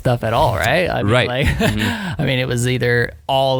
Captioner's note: laughs